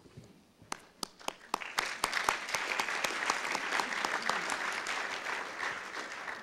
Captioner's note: audience applause